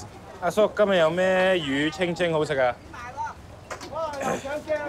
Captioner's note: speaks in foreign language; fisherman speaks in foreign language